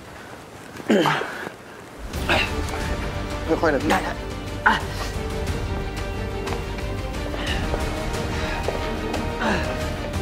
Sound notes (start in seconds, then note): 0.9 clears throat; 4.5 groaning in Pain; 9.4 exhausted Breathing